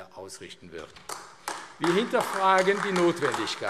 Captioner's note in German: Beifall AfD